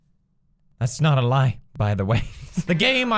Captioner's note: chukles